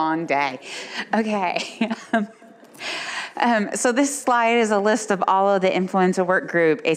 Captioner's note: laughs